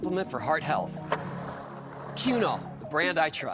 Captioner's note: skateboard wheels roaring